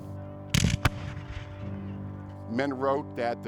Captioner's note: gunshots